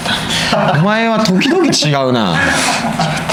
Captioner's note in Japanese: 笑い